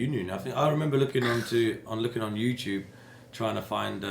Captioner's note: scoffs